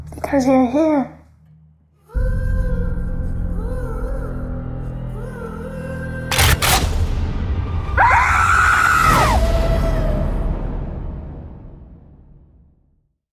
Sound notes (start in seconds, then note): 2.2 dramatic music; 6.3 gun clicks; 8.0 Pin-up Girl screams